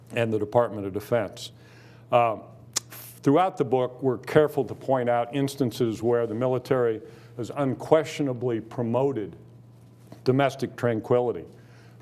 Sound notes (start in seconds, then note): none